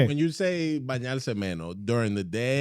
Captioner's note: speaking In Foreign Language